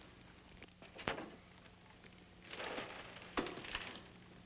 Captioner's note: none